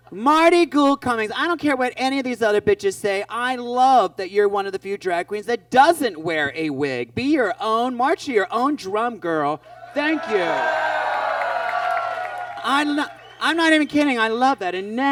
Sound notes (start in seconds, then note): 9.8 audience cheers